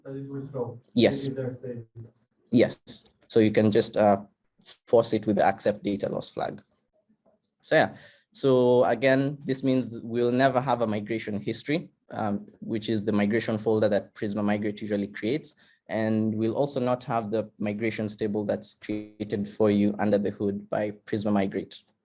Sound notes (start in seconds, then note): 1.3 faintly speaks